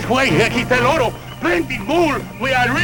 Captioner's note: non-english speech